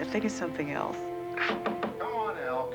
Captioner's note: knocking